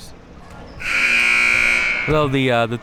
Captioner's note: buzzer sounding